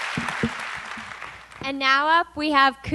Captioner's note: applause